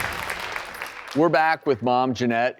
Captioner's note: crowd clapping